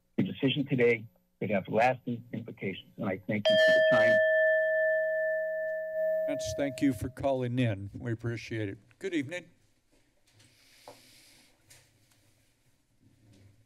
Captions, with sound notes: Your decision today good have lasting implications [timer sound] and I thank you for your time. - Thank you for calling in, we appreciate it. Good evening.